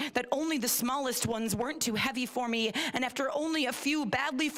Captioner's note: none